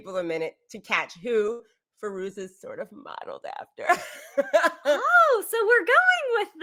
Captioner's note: laughs